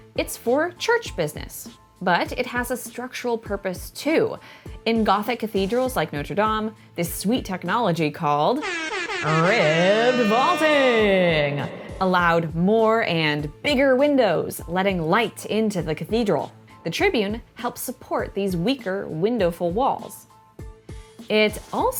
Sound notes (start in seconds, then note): 8.6 party horns